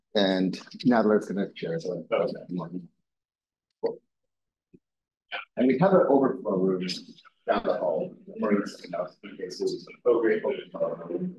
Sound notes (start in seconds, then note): 8.6 audio distorting